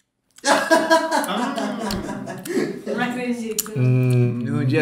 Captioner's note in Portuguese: risos